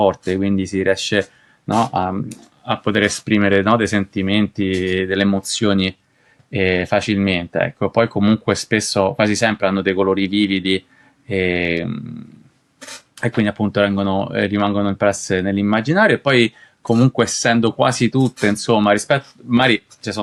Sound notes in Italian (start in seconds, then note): 13.2 sbuffare